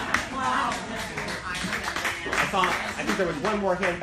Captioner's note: laughing; applauding